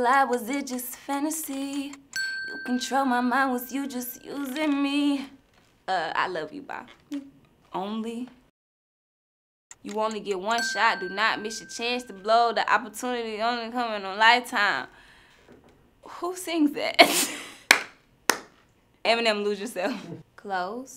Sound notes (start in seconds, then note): 2.1 bell dings; 10.5 bell dings; 17.6 claps